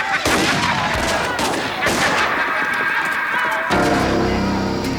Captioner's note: Twister laughs; guns fire; ominous music